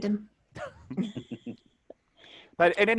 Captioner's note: laughing